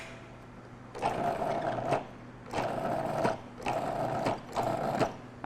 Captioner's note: food processor rattling